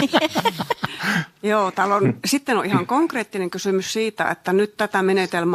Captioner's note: naurua